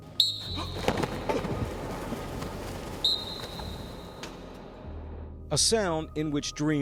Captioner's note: football whistle; whistle